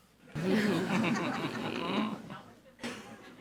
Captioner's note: people laughs